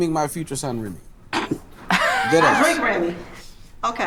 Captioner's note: group laughs